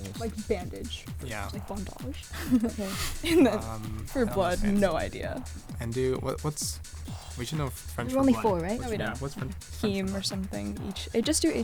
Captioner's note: wispering